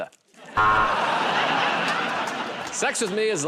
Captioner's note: buzzer